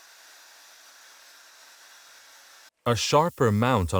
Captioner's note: Dremel buzzing